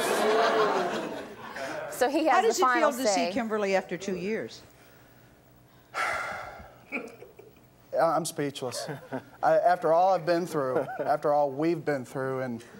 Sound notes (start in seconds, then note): 0.0 laughter; 5.9 sighs